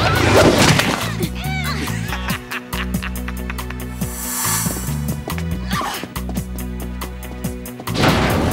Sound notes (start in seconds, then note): 3.0 laughing